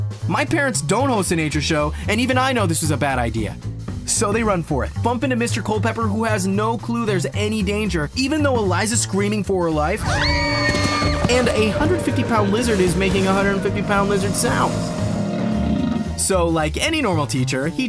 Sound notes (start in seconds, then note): 10.0 screaming